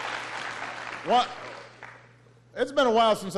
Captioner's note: applause